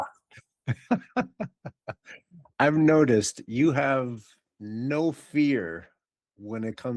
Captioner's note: laughing